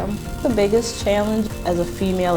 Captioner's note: welder crackling